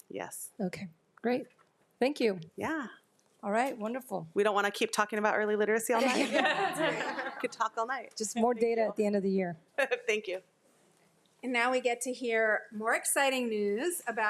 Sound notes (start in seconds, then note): 6.0 attendees laughing